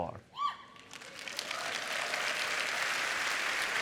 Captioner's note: applause